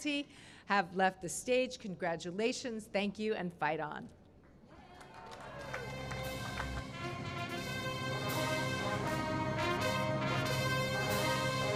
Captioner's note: cheering and applause